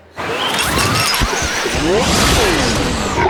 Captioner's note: all screaming